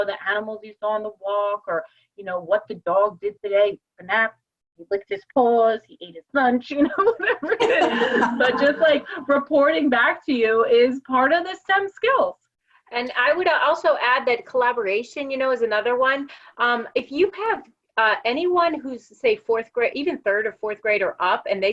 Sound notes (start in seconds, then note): 6.9 laugh